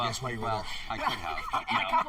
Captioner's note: laughter